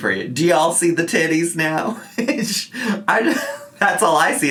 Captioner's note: laughs